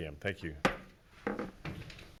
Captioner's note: gavel pound